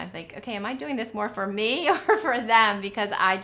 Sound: laughter

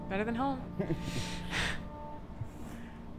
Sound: both laugh

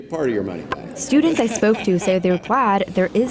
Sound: laughing

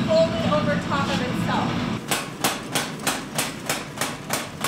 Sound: thudding

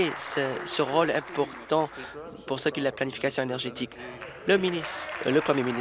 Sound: applause

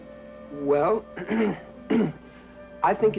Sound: clears throat

